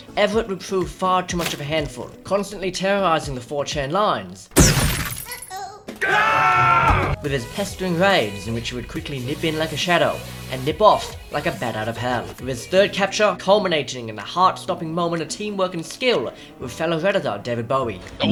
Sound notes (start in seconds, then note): 4.5 smash; 6.0 screaming